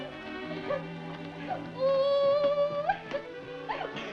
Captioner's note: Betty crying